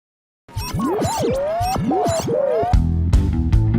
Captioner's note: warbly tuning sound